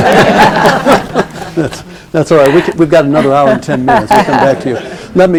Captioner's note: laughing